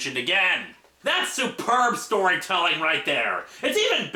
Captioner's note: sarcastic tone